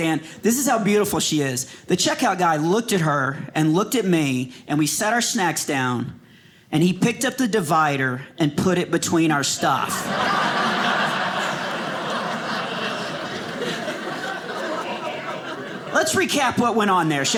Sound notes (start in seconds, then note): 9.7 audience laughing